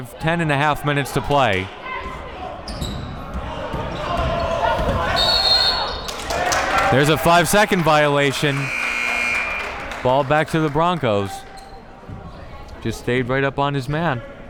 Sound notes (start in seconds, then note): 5.1 whistle blaring; 8.4 siren blaring